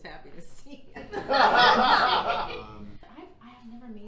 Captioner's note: audience laughing